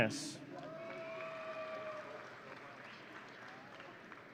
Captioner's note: audience cheering